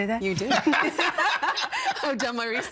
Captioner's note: all laughing